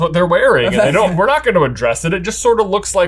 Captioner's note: chuckles